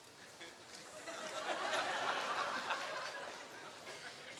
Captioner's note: laughter